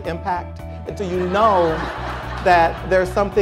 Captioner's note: crowd laughter